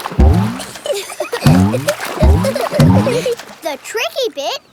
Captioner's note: giggling